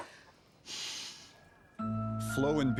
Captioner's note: sighing